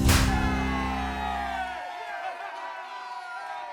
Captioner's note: cheering